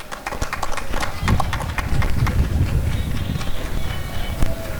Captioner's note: applause and cheering